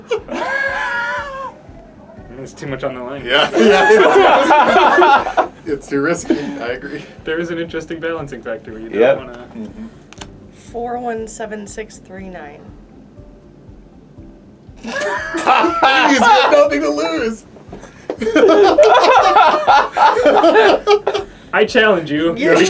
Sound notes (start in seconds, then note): 8.0 laughter